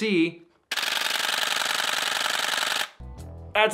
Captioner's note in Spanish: clics rápidos